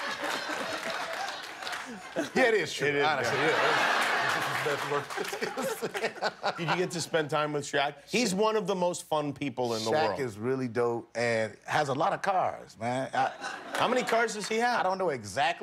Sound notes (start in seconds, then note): 2.7 cheers and applause; 3.0 laughter